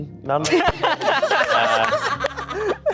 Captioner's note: everyone laughing